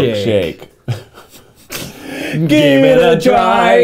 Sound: laughing

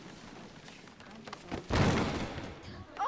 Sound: crash

